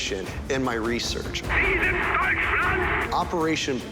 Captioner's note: speaking german